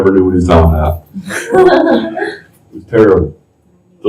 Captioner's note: laughter